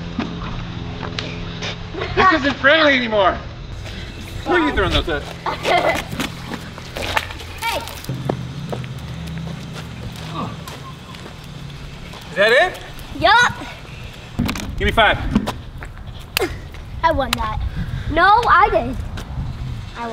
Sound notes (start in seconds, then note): 1.9 kids laughing